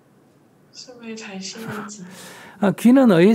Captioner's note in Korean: 질문자 웃음; 스님 웃음